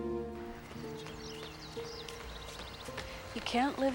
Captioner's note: birds chirping